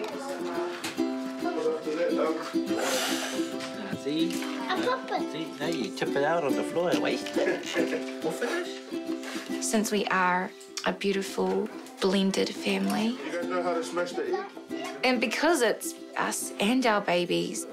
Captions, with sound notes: (BLOWS) - See? - I pop it. Nah, you tip it out on the floor and waste it. - All finished? - (BLOWS) Since we are a beautiful blended family, and because it's us and our babies,